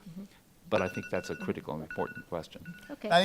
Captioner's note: phone alarm dings